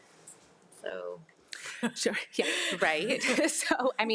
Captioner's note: laughs